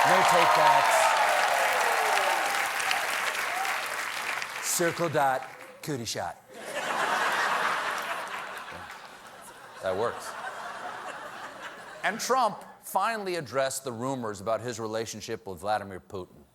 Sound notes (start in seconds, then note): 4.3 applause; 6.5 laughter